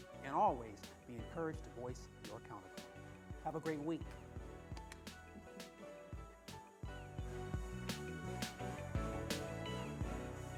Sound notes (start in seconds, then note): 4.8 clicks with mouth; 6.7 slow music